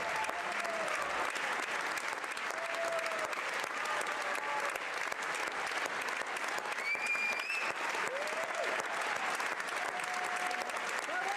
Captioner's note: applause